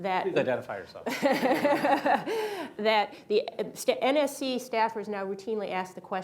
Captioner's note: laughter